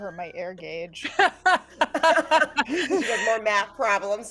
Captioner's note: laugh